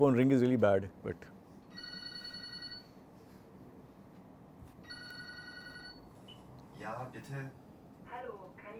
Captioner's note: textbook audio is played